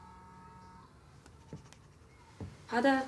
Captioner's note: phone buzzes